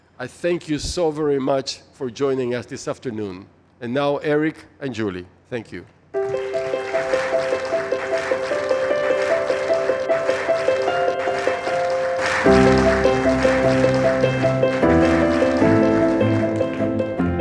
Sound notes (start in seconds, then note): 6.1 audience applauding; 6.1 warm music; 13.3 audience applauding